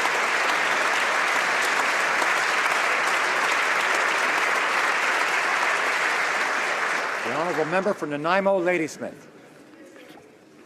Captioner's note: applause